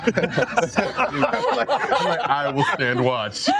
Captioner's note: all laugh